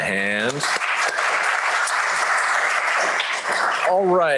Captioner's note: applause